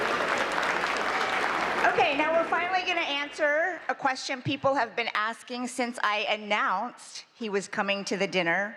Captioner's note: applause